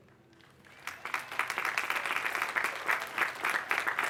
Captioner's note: applause